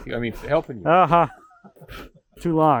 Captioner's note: both laughing